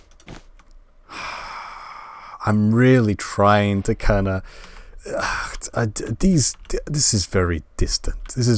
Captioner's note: sigh